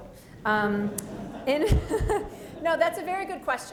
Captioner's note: laughter